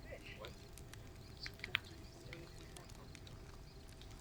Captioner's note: chatter